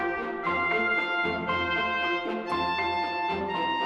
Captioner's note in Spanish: none